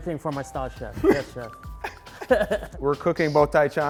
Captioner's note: laughing